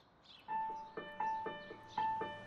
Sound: birds chirping; light music

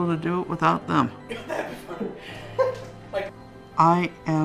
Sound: laughing

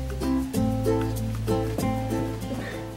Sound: walking noises

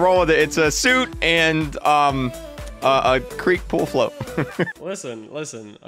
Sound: stammers

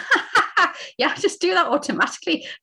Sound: laughing

